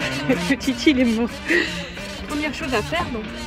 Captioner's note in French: rire